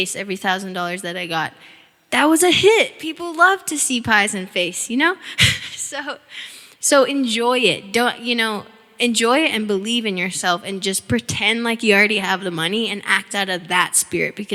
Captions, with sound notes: every $1,000 that I got. That was a hit! People love to see pies in face, you know? (chuckling) So enjoy it, don't... Enjoy it and believe in yourself, and just pretend like you already have the money and act out of that spirit